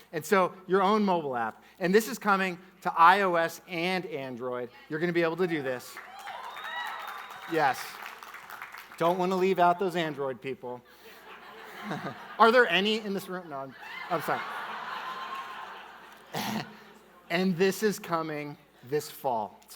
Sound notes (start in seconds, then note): 5.8 audience clapping; 11.1 audience laughing